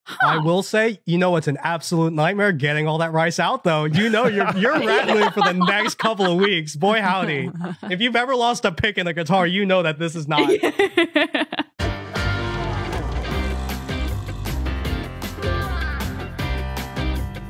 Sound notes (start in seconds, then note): 10.4 giggles